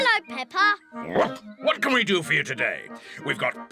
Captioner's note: barks